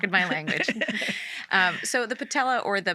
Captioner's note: laughing